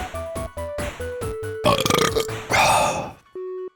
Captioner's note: big ol’ belch